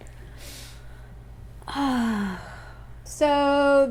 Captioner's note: sigh